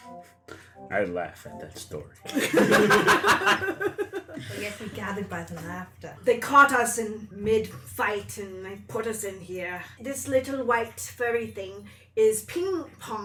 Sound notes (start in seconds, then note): 2.3 all laugh